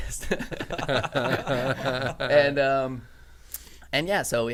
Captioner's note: men laughing